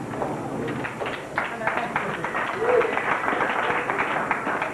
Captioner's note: crowd cheers